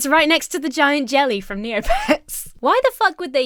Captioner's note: Emma chuckles